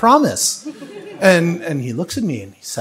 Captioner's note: audience laughs